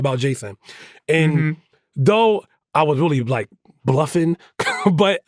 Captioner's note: chuckles